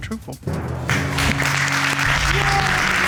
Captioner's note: audience applauding